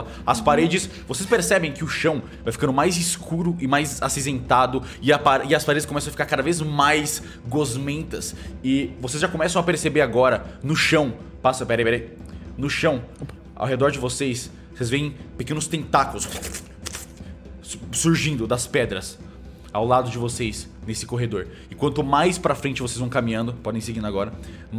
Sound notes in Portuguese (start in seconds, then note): 16.3 barulho de tentáculos